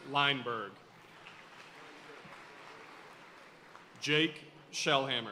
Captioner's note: audience cheering and applauding